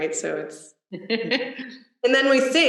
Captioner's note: laughs